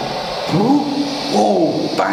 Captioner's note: foot steps approaching